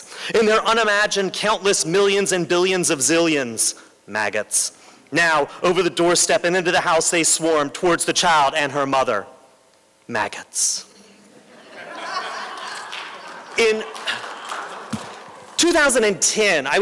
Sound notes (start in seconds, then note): 11.2 laughter; 13.5 applause